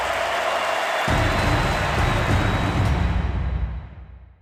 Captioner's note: audience cheering